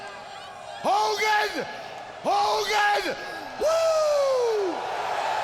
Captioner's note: crowd cheering